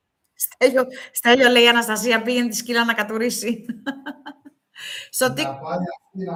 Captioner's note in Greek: γέλια